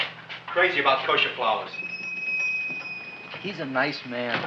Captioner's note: shop bell chimes